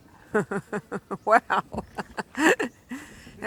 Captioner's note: laughing